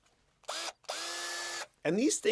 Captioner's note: power drill whirring